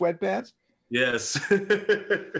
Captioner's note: laughter